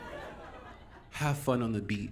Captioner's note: audience Laughing